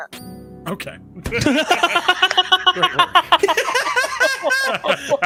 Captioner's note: all laughing